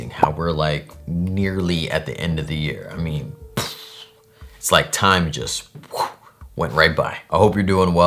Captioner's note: blowing air; whoosh